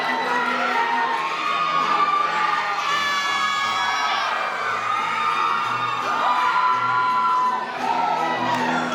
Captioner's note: applause